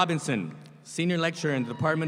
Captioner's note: audience applauds